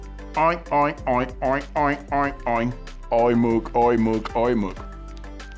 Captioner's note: imitates pig oinking